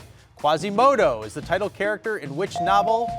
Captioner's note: bell dinging